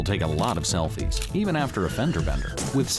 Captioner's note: brakes squeal, cars crash